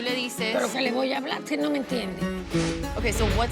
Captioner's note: speaks Spanish